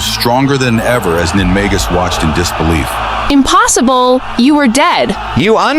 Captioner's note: trembling, horrified